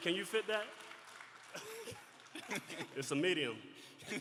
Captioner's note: laughter